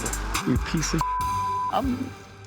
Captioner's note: beep